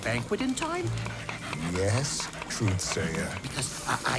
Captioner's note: chopping veggies while Truthsayer pants excitedly